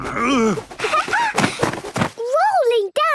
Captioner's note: laughing